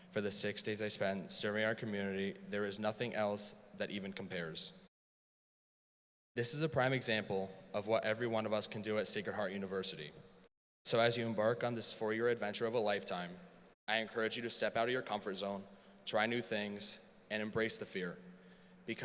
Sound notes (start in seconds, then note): none